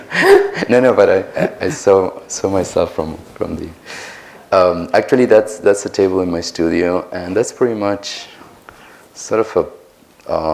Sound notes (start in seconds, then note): 1.1 chuckles; 3.6 laughs